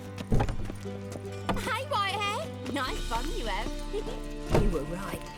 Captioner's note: giggle